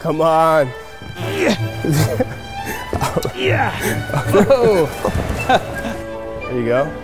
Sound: grunting

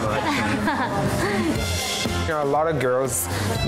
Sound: laughs

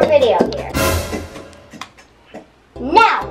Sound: scary sound effect

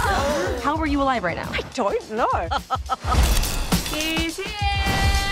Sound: laughing

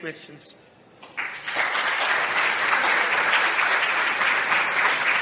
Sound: applause

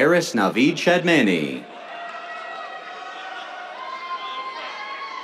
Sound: cheers

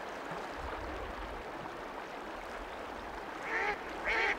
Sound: rushing water sounds; rushing water and duck quacking sounds

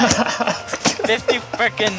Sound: laughing

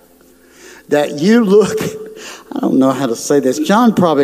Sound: laughs

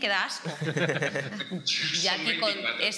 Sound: laughter

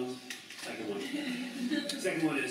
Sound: laughter

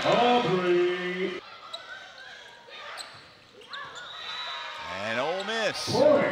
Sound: players shouting

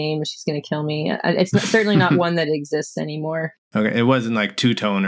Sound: laughter

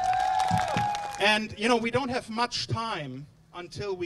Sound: applause, cheering

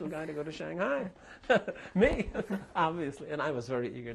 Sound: laughter

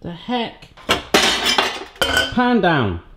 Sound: pans clatter

